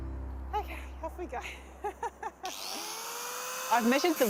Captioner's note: laughs